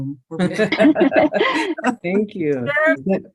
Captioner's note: group laughing